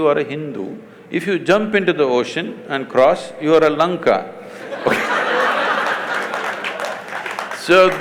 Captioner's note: laughter/Applause